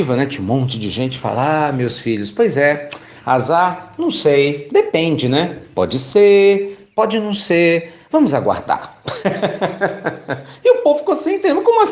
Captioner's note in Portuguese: Risos